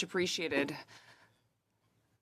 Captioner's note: speaking in French